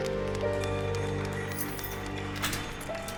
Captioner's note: keys rattle